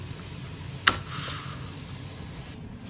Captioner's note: snap